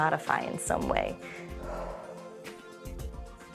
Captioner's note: exhales